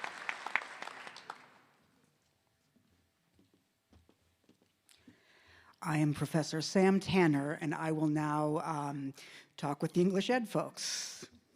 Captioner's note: applause